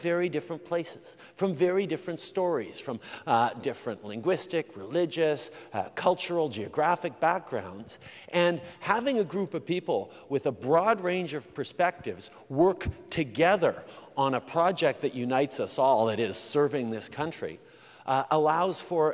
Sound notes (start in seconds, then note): none